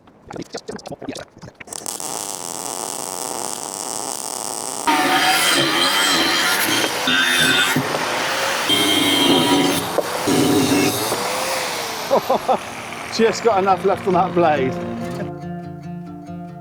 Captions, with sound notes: [SOUND OF WIND] [SOUND OF WIND] [SOUND OF WIND] [SOUND OF WIND] [SOUND OF WIND] [SOUND OF WIND] [LAUGHTER] Just got enough left on that blade.